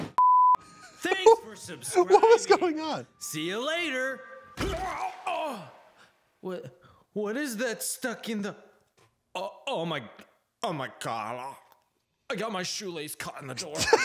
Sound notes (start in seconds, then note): 0.0 groans; 0.1 beep; 0.3 laughs; 4.7 groans